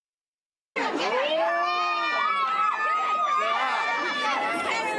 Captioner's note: crowd yelling